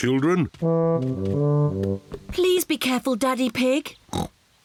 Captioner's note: snorts